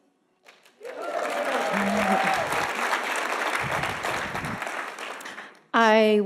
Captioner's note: audience applauding and cheering